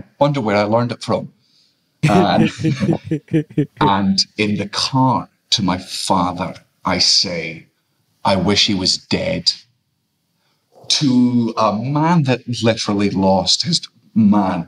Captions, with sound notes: Wonder where I learned it from. (all laughing) And in the car to my father, I say, "I wish he was dead." To a man that literally lost his man,